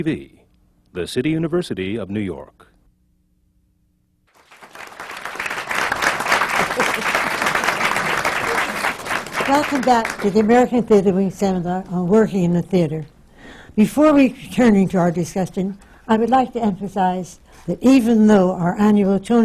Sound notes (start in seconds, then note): 4.3 applause